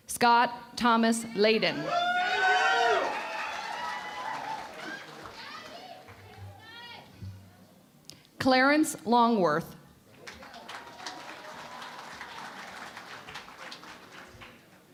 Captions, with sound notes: Scott Thomas Layden. [ Cheering and Applause ] Clarence Longworth. [ Applause ]